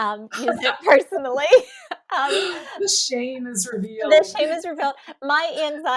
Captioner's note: laughter